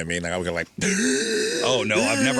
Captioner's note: gasping